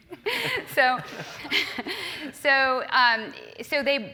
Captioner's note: laugh